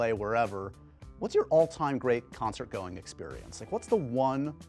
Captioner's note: none